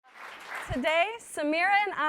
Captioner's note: audience applauds